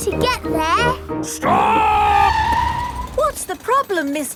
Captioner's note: tires screeching